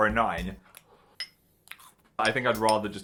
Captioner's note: crunches on cereal; spoon clinks